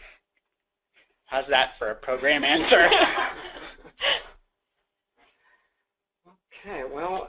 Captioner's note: chuckling